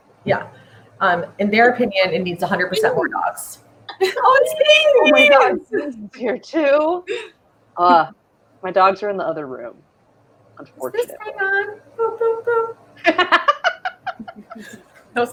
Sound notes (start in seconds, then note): 8.0 groans disappointedly; 13.0 laughs